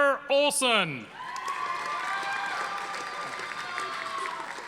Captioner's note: audience applauding